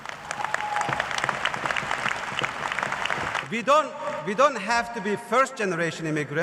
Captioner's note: cheers and applause